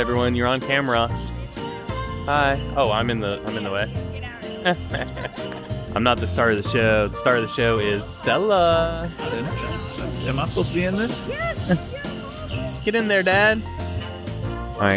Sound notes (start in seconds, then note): 4.6 laughing